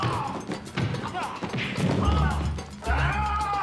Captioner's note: blows landing, grunting; man yelling, blows landing